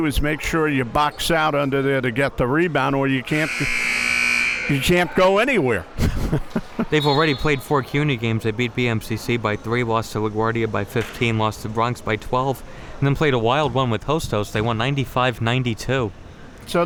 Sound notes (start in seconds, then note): 3.3 buzzer buzzing; 5.9 laughs